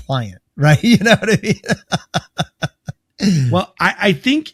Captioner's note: laughs